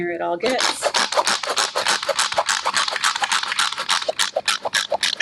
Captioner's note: processor chopping